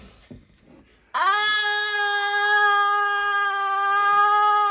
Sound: screams

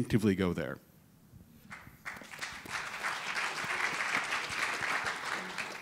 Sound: audience applauding

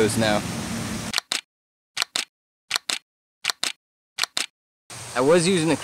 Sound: camera shutter clicking

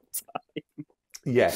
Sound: laughs

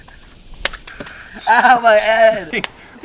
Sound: smashing

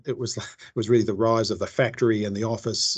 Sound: laughs

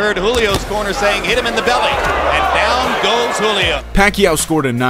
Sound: crowd noise

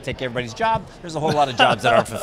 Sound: laughs

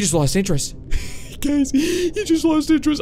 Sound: laughing

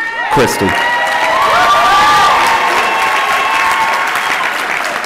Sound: cheers and applause

